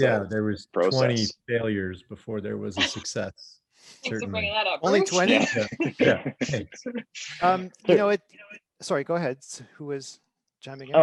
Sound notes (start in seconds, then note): 5.0 all chuckle